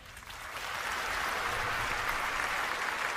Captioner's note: applause